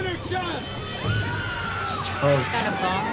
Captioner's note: passengers scream